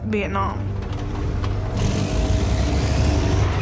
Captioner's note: engine revs